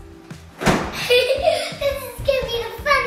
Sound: laughing

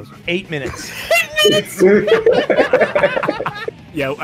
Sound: laughter

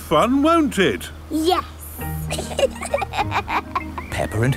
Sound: both laughing

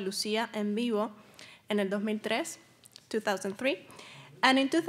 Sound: speaking Spanish

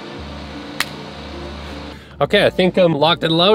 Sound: hands clapping together

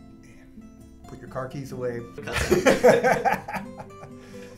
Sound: laugh

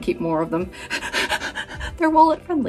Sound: laughing

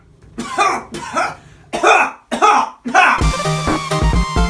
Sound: coughing; upbeat electronic music

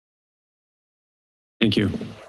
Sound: silence

